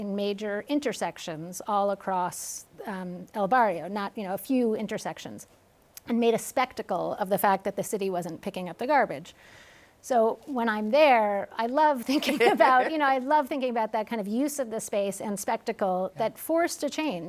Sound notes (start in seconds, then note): 12.0 laughs